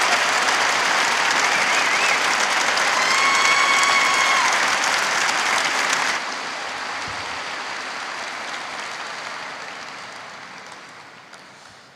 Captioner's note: cheers and applause